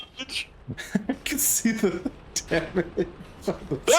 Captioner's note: laughs